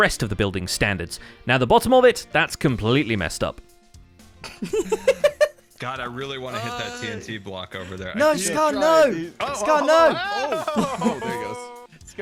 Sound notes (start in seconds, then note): 6.5 sighs; 6.5 giggles